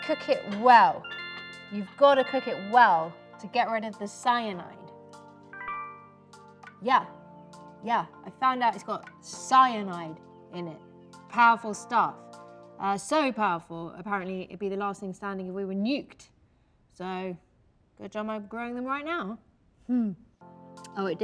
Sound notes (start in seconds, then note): 0.0 notification sound